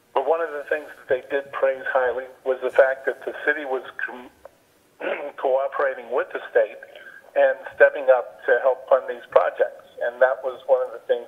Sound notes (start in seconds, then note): 5.0 clears throat